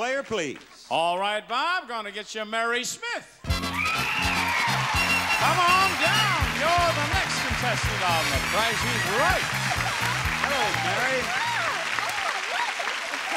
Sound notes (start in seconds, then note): 2.8 audience cheering; 2.8 upbeat music